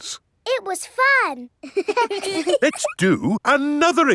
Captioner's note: children laughing